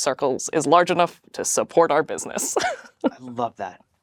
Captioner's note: laughs